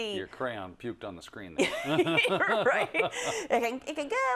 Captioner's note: laugh